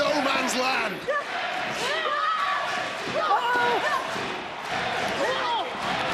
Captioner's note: crowd chant NXT